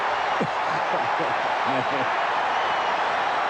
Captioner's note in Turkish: coşkulu tezahürat